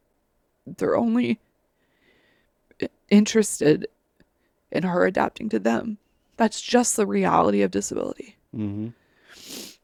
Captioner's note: sniffles